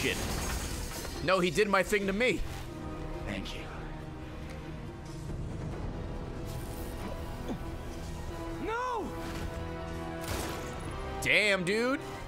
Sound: laughs

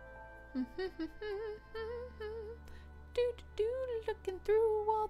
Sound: humming

